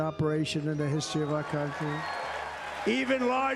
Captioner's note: Aclamaciones y aplausos